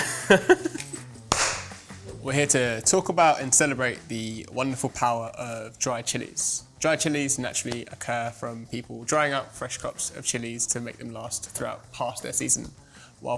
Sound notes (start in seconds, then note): 0.0 chuckling; 1.2 clapping hands